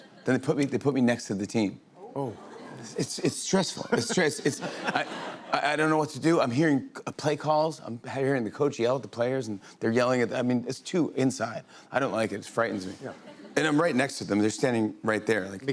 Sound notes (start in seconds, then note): 1.8 audience oohs; 3.8 laughter